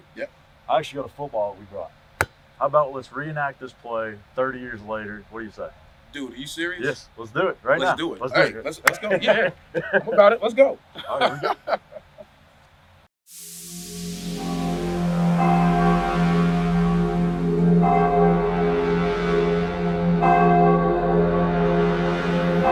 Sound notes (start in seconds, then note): 10.9 laughing